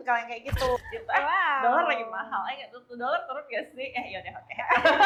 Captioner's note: laughs; laugh